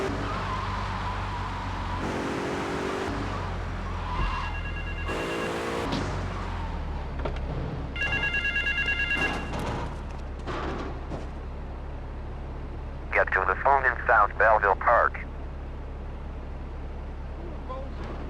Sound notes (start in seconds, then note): 0.1 car engine roaring; 2.1 phone ringing